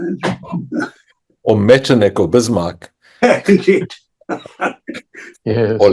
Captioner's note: chuckles